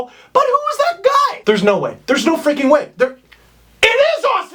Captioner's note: incredulous